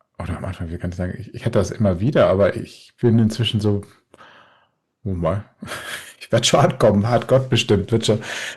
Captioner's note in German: gelächter